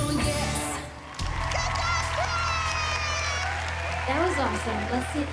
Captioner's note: cheering and applause